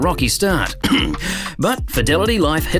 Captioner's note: cough